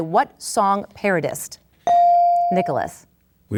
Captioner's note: bell dings